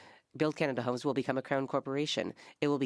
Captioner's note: speaking French